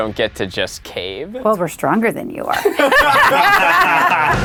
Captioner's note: laughs; intro music